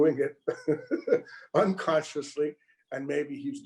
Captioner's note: chuckles